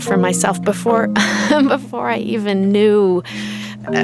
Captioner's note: chuckles